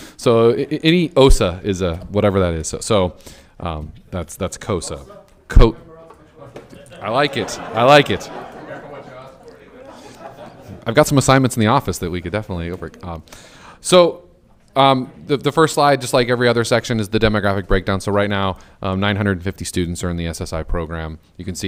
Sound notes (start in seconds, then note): 8.0 all laughing